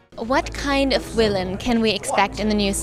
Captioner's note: voiceover